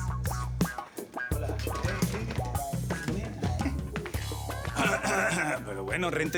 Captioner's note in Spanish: Gigante carraspea